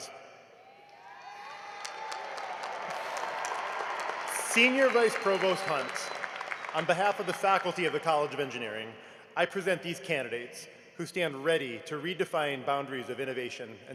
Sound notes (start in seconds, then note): 0.0 applause; 4.3 cheering and applause